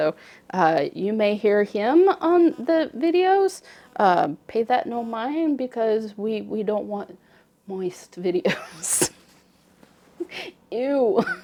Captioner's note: laughter